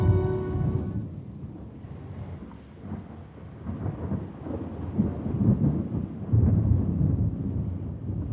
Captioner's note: thunder continues rumbling